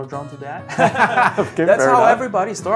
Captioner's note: both laughing